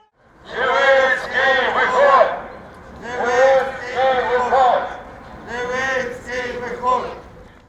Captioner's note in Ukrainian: скандують